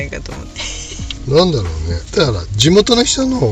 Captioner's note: laughs